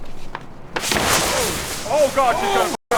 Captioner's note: whoooosh